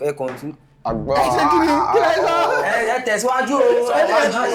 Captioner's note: laughs